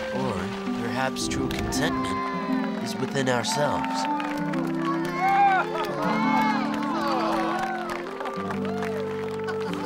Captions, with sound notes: Or perhaps true contentment is within ourselves. (applause and cheering)